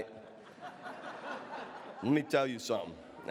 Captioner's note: audience laughs